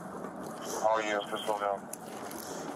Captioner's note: radio chatter